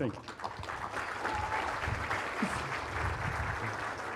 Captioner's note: applause